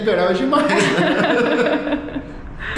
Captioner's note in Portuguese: risos